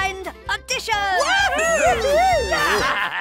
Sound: cheering

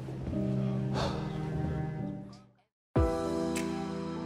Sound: sighs

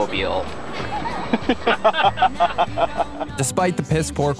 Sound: laughing

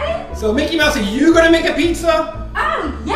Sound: voiceover

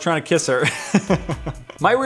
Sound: laughter ensues

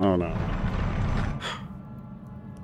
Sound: sigh

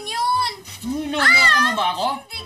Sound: screams

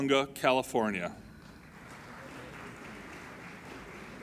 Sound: applauding

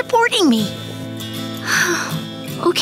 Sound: sighing

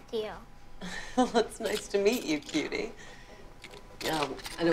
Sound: chuckles

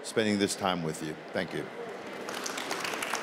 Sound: applause

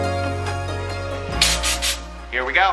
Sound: air hisses

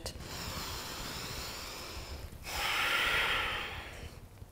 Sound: inhales and exhales

